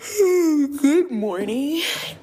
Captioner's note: yawn